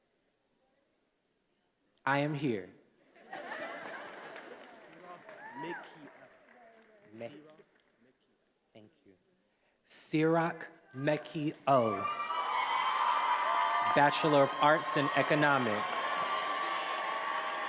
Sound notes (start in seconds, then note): 11.8 attendees applauding and cheering